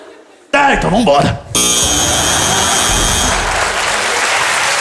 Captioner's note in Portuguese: campainha